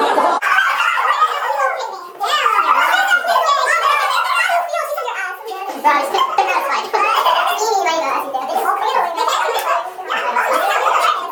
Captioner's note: sped up sounds